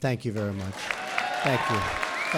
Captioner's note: applause